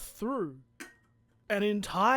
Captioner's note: taps empty can